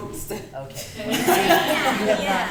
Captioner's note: laughter